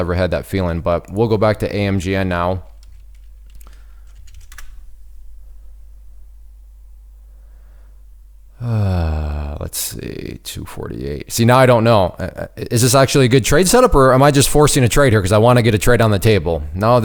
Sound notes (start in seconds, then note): 2.7 keys typing; 8.5 sighs